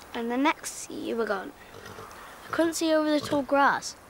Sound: none

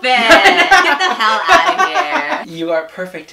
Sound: laughs

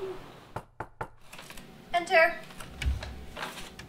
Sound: knocking

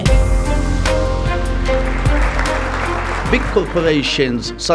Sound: audience applauding

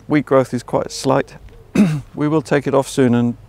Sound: coughs

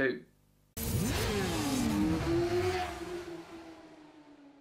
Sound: motorcycles revving

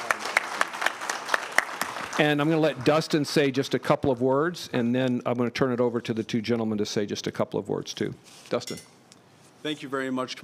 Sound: applause

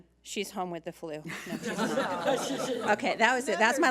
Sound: laughing

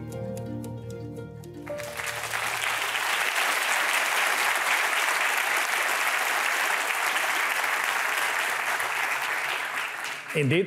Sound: applause

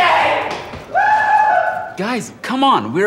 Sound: scream

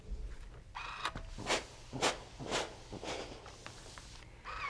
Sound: iron whirring

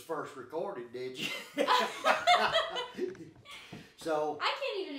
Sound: both laughing

